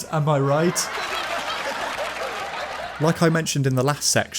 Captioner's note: totally real and not fake rapturous applause